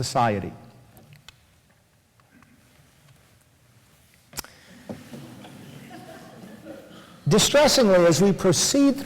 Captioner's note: switches slide, laughter